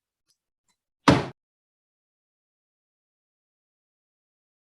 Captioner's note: gavel thuds